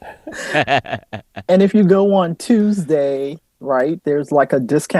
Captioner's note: laughter